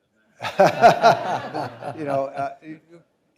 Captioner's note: audience laughing